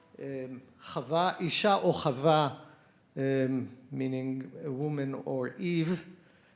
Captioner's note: speaks in Hebrew